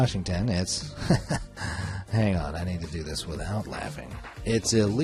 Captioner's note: laughs